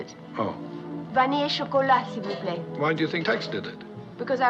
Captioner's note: speaking French